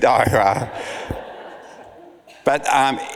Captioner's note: audience laughs